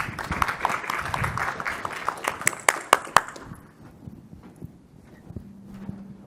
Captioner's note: applause